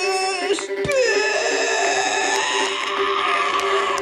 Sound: groaning

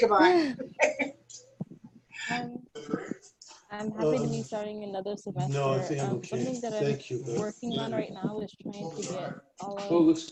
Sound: laughter

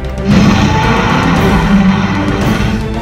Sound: Spinosaurus roars loudly

